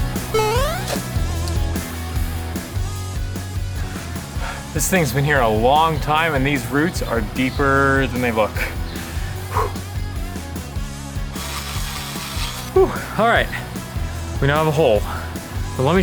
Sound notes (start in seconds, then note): 12.8 sighs